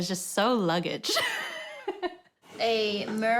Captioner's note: laughs